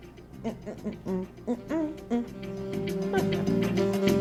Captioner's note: woman humming; slow jazz music playing